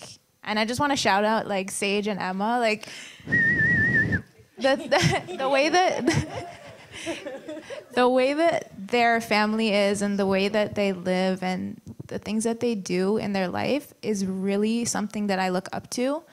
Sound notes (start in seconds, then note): 3.2 whistling; 4.4 laughs